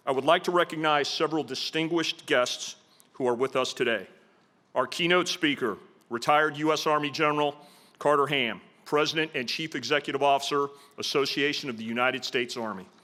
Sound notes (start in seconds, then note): none